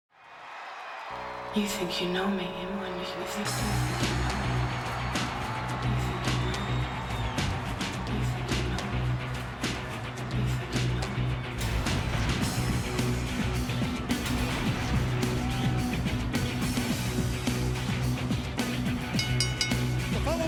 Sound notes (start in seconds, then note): 0.3 audience cheering; 3.6 audience cheering; 3.6 upbeat music; 11.8 swooshing music; 15.1 attendees cheering; 15.1 upbeat music; 19.0 bell ringing